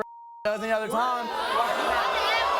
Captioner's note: audience boos